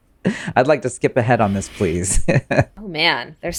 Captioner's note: laughs